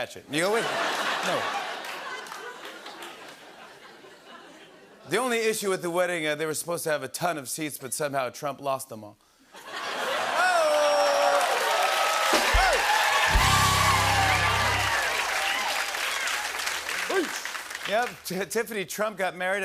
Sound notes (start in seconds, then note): 9.5 laughter; 13.2 cheers and applause; 15.1 applause